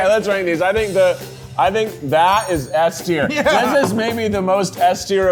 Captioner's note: laughing